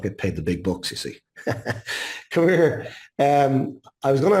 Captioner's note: laughs